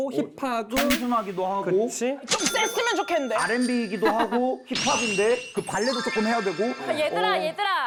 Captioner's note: overflowing with ambition sound effect